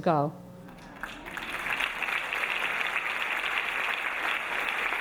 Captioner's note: audience applauding